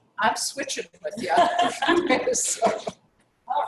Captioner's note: laugh